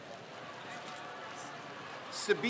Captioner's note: crowd cheers